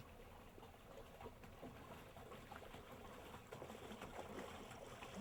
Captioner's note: water sloshing